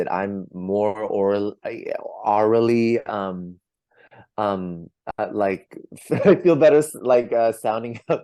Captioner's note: laughs